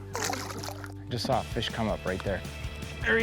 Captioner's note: water splashes